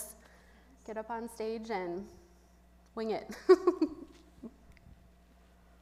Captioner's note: chuckles